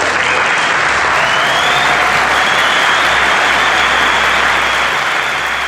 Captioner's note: audience applauding and cheering